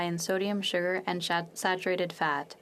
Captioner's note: speaking French